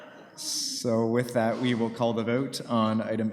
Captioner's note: laughter